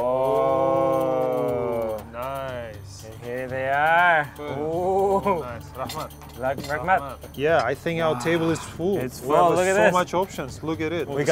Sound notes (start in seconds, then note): 0.0 cheering; 5.6 speaking foreign language